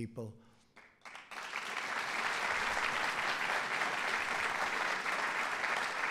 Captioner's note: applause